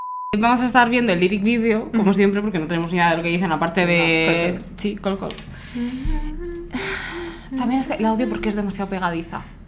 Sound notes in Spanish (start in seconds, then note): 5.7 tararea CALL CALL CALL